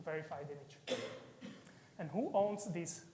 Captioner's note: audience member coughing